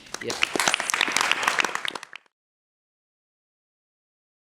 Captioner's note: applause